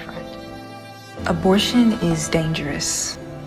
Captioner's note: voiceover